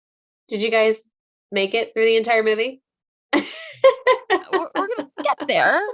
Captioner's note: laughing